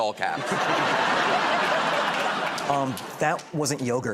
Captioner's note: laughter